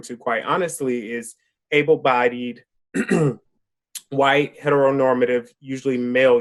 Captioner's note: clears throat